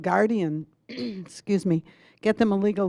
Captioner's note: clearing throat